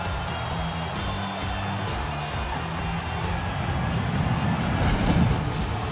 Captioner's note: gate creaking